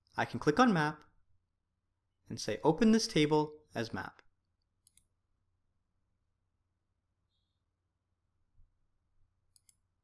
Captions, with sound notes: I can click on map and say open this table as map. (keyboard clicking)